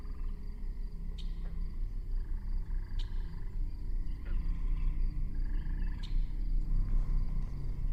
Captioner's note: faint whispering voices